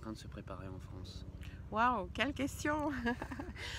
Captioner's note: laughs